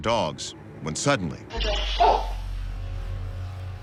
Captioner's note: barks